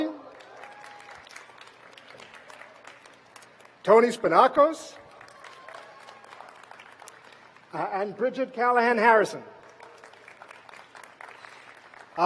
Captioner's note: applause; applause